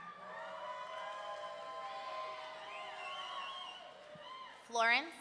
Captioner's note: audience cheering